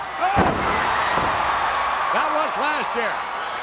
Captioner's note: audience cheering